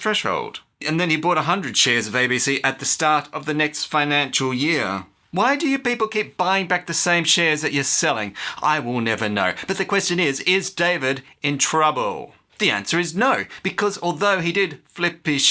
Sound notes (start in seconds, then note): none